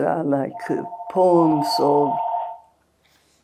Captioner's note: phone ringing